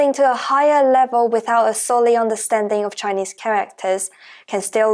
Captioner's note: Mandarin